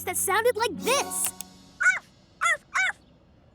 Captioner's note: barking